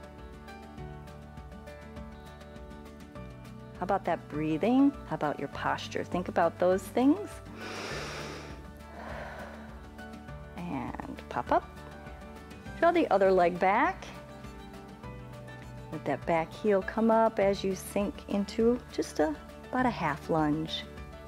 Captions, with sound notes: How about that breathing? How about your posture? Think about those things. [inhales and exhales] And pop up. Throw the other leg back. Let that back heel come up as you sink into just about a half lunge.